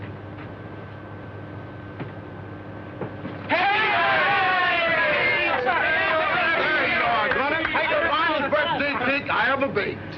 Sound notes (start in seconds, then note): 3.4 cheering